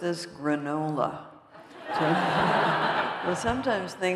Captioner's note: laughter